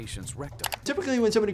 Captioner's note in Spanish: clic del mouse